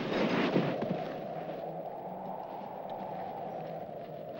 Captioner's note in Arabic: طقطقة الثلج; تهب الرياح